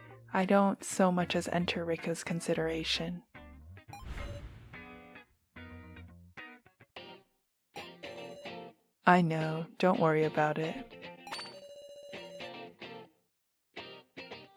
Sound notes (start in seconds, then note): none